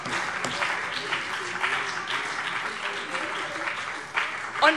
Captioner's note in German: Beifall BÜNDNIS 90/DIE GRÜNEN